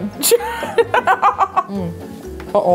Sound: laughing

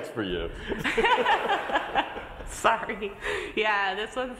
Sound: laughs

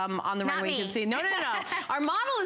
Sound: laughter

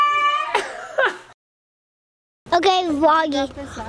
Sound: laughs

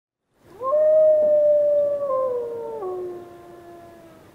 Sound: wolf howling

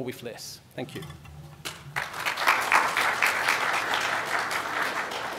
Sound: applause

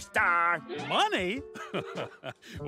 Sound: laughing

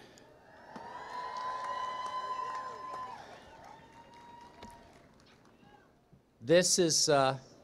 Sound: applause

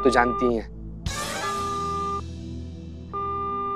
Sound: beeping sound

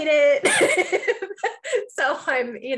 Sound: laughing

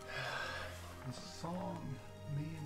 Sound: Sounds of Cecil plotting a scheme

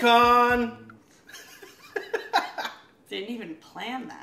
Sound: laughing

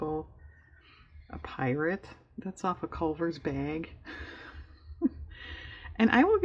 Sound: laughs

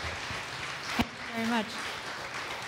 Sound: audience applause

